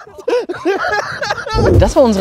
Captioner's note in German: Lacht